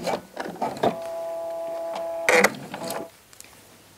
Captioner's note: whirring, short creaking